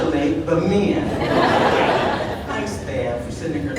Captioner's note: audience laughing